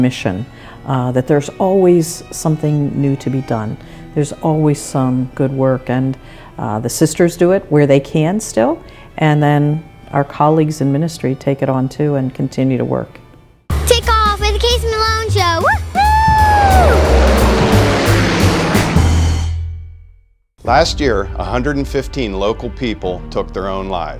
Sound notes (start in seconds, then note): 16.5 plane roars